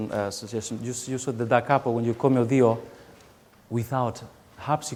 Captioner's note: speaking song lyrics in a foreign language